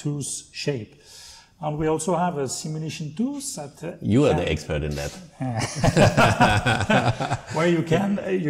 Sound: laughter

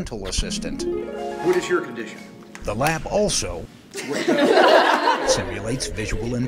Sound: laughter

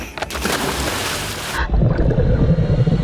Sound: water swishing; water bubbling

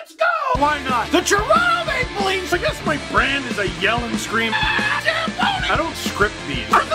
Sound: rock music plays throughout intro; screams

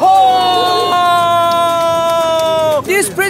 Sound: Webocto screams

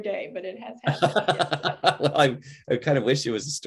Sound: laughing

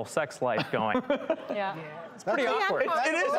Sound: laughter

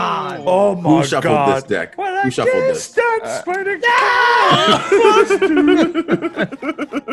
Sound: laugh

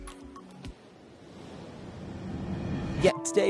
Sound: waves rumbles

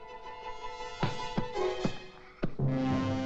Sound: suspenseful music; pounding pillow; suspenseful music

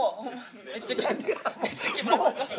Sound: laughs

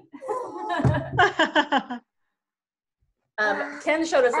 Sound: laughing

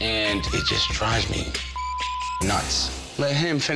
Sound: beep

